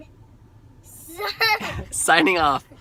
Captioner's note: laughter